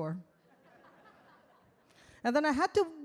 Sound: audience laugh

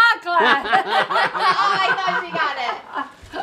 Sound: all laugh

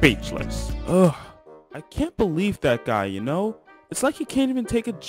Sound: sigh

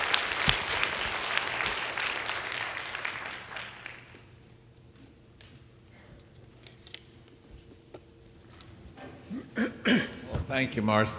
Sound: applause

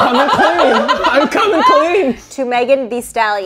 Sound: all laughing

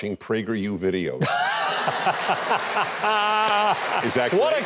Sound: Huckabee and audience laughing

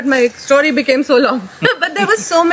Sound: both Laugh

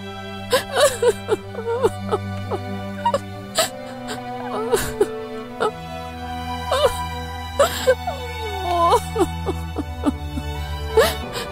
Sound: crying

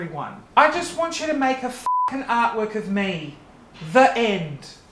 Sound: beep

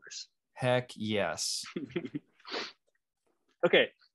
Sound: laughing

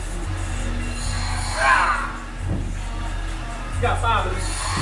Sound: straining

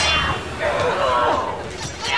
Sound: grunting

